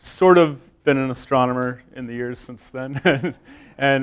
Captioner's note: chuckles